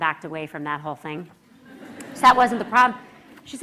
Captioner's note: laughter